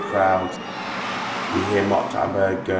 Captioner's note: crowd cheering